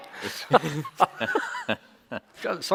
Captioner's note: chuckles